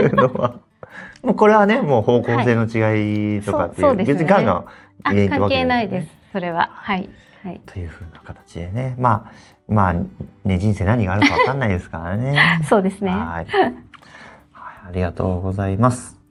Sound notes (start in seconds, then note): 4.7 chuckles